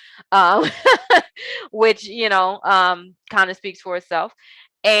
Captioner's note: chuckles